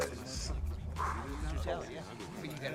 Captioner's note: exhales